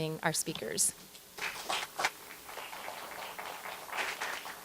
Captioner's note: applause